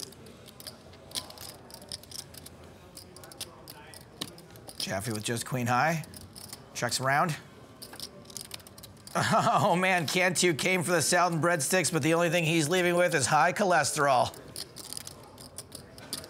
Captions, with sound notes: (chips clacking) Jaffee with just Queen high. Check's round. (laughing) Man, Cantu came for the salad and breadsticks, but the only thing he's leaving with is high cholesterol.